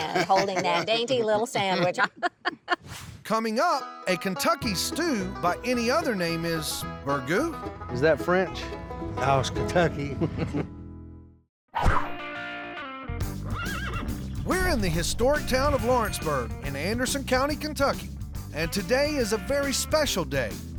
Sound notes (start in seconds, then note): 1.8 laughs; 13.4 horse neighs